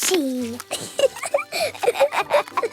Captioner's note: both laughing